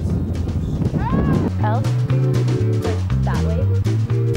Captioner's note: screaming